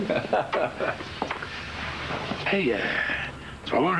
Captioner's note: Rire